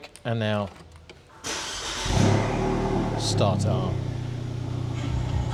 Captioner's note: car starts